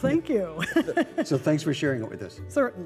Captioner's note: laughter